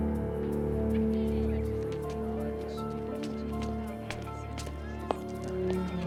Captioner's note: students chattering